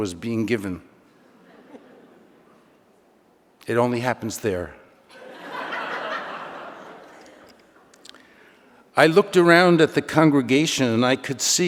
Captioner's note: laughter